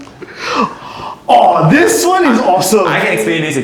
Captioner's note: gasp